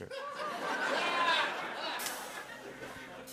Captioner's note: laughter